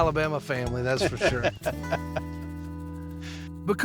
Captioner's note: laughter